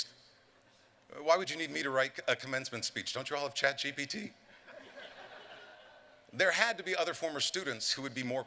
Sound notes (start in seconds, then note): 4.5 laughter